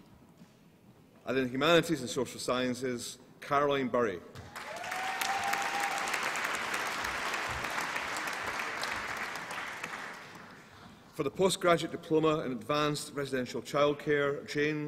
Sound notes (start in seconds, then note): 4.4 applause and cheering